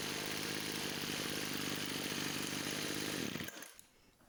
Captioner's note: engine running sounds